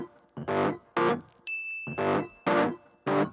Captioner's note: ding